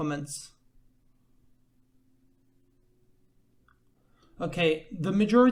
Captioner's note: awkward silence trilogy